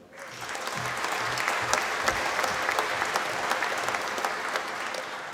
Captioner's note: applause